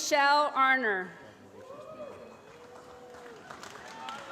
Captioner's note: applause